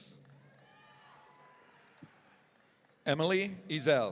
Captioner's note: audience cheering